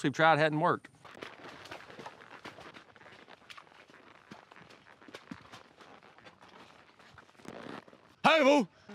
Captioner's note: water sloshing